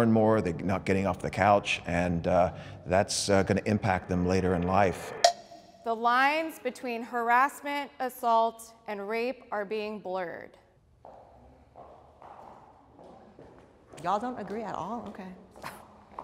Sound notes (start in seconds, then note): 5.1 bell dings; 11.0 footsteps